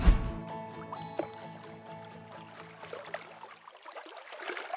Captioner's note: waves splash